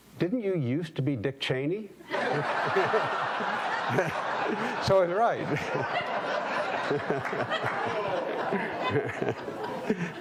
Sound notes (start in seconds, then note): 2.1 audience laughing